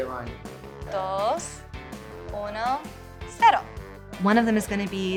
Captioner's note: speaking in Spanish